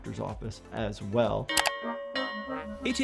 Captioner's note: bell dings